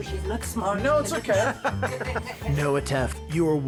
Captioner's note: laughs